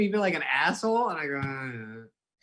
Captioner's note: groans